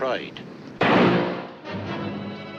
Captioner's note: gunshot blasting; suspenseful music